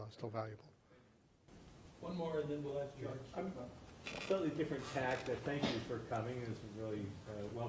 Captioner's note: voiceover